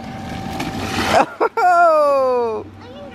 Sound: laughs

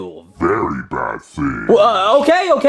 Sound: ominous talking

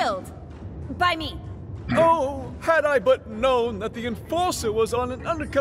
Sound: snorts

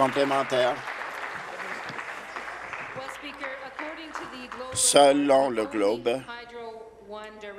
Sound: applause

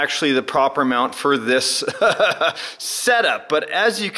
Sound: laughing

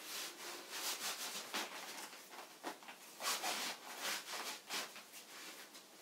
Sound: cords swoosh against fabric

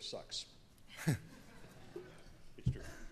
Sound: laughter

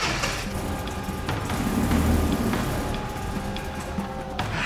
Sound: engine starts

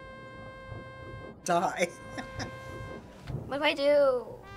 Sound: laughing

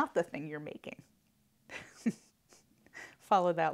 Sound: laughs

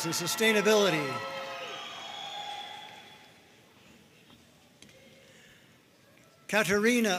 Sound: audience cheering and applauding

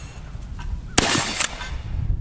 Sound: gun fires

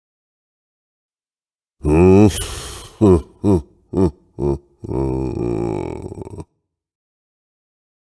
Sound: evil laugh

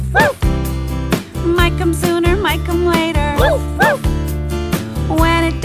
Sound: woof woof!

